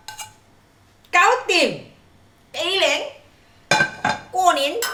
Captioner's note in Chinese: 廣東話